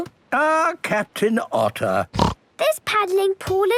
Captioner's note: snorts